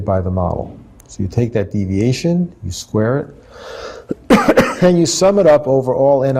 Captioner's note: cough